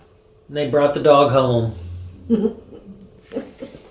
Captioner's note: giggles